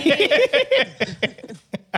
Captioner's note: laughing